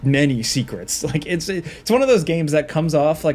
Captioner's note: laughing